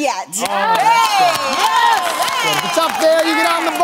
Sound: cheering

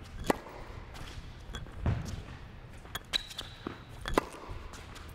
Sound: ball bouncing; racket hitting ball

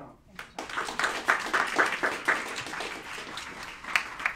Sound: applauding

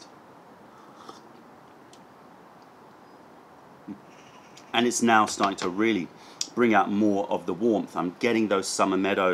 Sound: sips tea

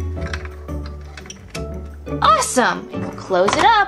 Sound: drawer clicking

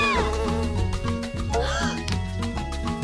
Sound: gasps

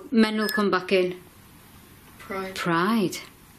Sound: loud beeping

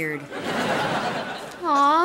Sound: laughing

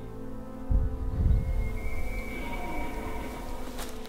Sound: elk Bugling

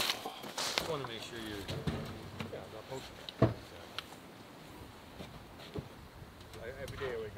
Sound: speaking faintly

